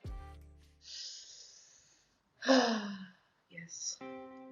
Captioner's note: breathes deeply